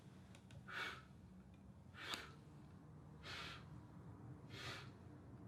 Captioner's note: Darren breathing heavily